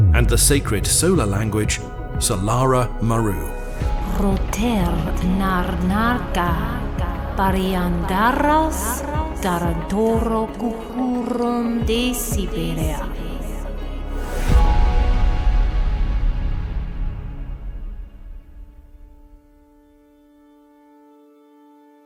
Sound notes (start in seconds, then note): 4.3 speaker speaking Solara Maru; 19.1 ambient music